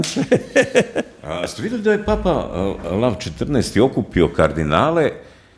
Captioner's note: laughter